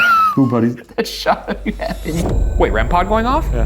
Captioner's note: laughing